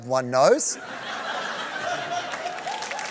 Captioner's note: laughter; applause